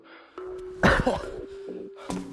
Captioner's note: cough cough